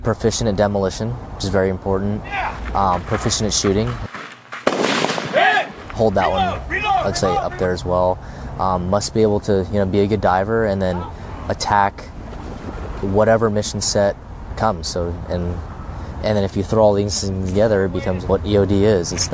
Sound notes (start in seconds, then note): 4.4 weapon firing